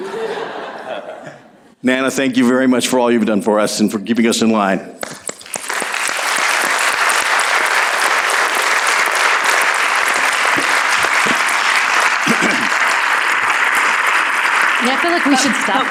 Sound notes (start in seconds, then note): 5.0 applause